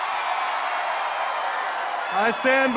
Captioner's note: applause